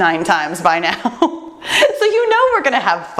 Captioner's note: laughs